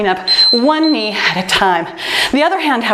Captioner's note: timer beeps